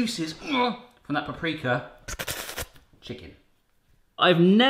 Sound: slurping

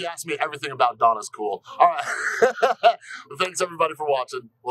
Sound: laughter

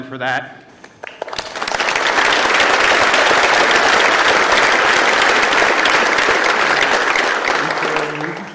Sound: applause

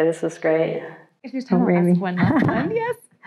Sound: chuckles

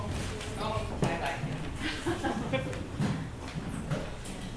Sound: group chatters

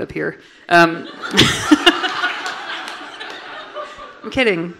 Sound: everyone laughing

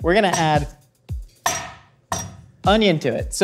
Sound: banging on table top

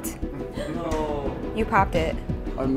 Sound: cries of despair

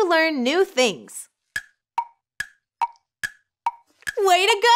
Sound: timer ticking

